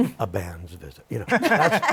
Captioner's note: laughter